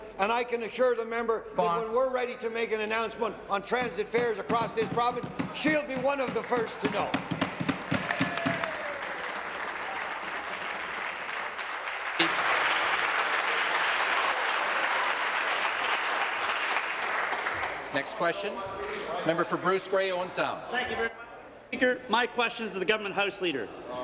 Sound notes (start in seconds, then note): 11.0 applause